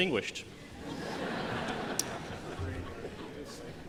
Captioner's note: laughter